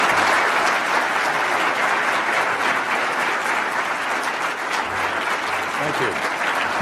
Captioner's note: applause